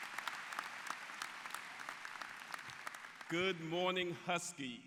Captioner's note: applause